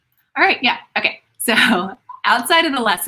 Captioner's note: laughs